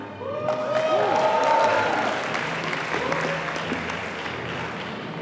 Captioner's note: audience applauding